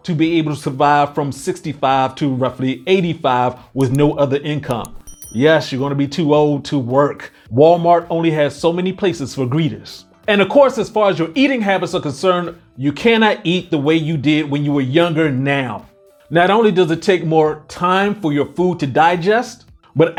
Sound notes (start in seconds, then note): 4.7 bell dings